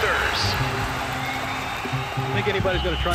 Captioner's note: crowd roaring